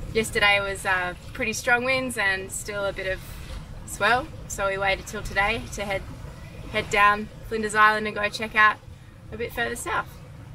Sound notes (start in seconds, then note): none